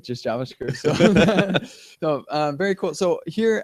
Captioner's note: laughter